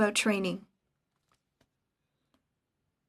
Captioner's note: speaking French